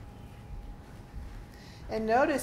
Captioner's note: bodies rustling